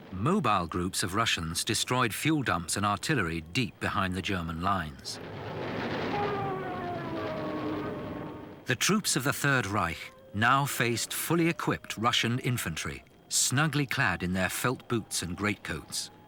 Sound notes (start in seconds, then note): 5.0 explosions booming; 5.7 siren wailing